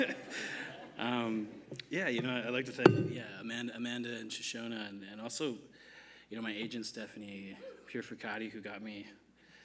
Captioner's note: laughter